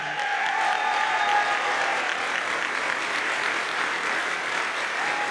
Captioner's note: audience cheers and applauds